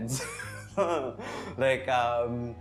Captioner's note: wth laugh